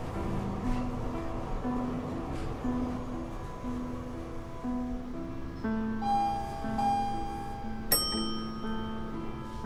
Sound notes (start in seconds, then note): 7.8 elevator ding